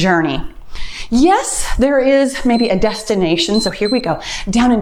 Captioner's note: timer beeps